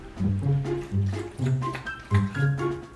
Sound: drinking water

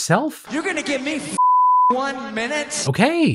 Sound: beep

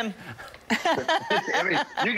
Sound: laughter

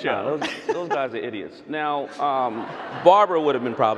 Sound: audience laughing

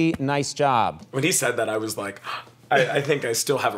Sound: gasp

